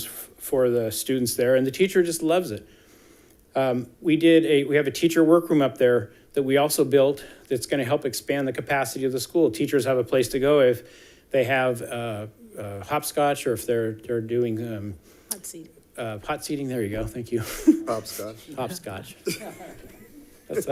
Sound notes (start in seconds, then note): 17.4 chuckling; 19.2 people chuckling